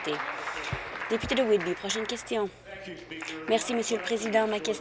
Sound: applause

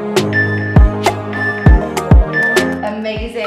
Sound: timer beeping

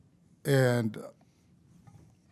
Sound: none

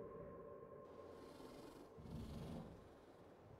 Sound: wolf breathing heavily

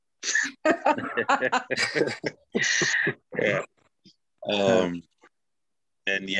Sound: laughing

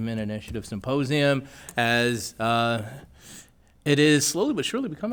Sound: none

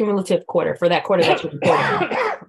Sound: coughing

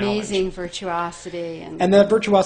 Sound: voiceover

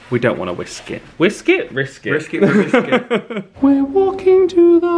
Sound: laughs

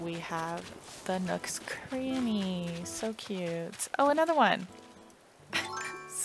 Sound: laugh

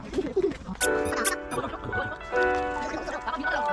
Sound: chatter chatter / Chatter chatter

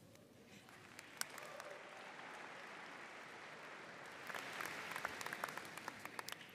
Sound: audience cheering and applauding

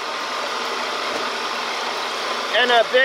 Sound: machinery engine revs

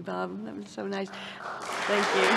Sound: applause

